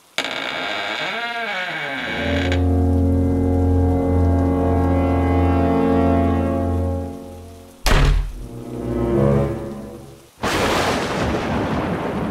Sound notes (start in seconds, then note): 0.0 door creaks; 2.2 ominous music; 7.8 door slam; 8.3 ominous music; 10.4 thunder clap